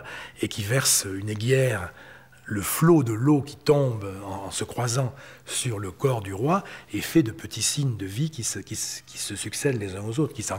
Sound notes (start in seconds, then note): 2.5 French spoken audio